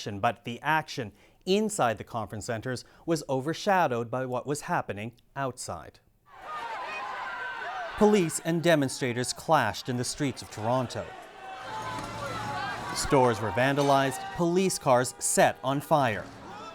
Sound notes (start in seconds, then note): 6.7 shouts and screams